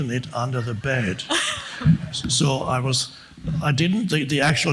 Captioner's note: woman laughs